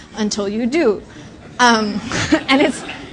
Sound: laughter

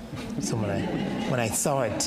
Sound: audience laughs

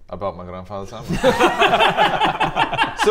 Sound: unsurprised laughter

